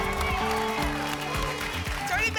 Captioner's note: applause and cheering